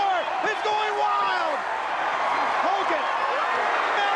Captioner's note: crowd chatter